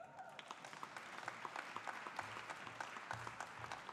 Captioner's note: audience applauding